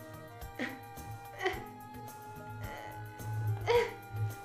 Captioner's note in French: gémissements